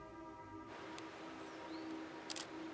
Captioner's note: wind rustling; birds chirping; birds continue chirping; camera clicking